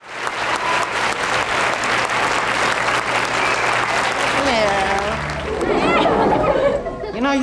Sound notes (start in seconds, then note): 0.0 audience applause; 5.5 audience laughing